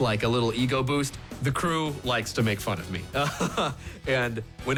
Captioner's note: laughs